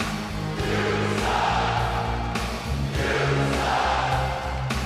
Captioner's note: you suck chants